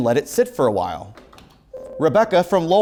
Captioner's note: ringing